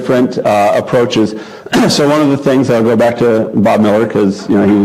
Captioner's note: cough